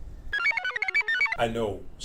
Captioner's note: computer chirps